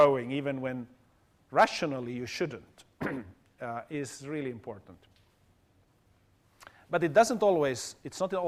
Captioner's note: cough